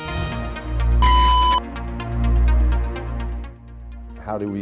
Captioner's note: mechanical beep